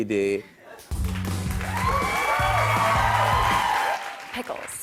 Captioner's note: cheers and applause